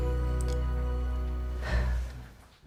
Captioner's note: sighs